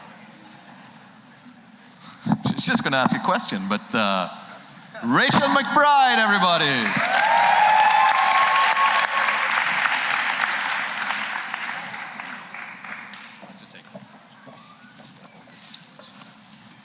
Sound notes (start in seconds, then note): 5.7 applause